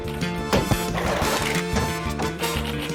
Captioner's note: clunk!; keys clack; splash!; thud!; keys clack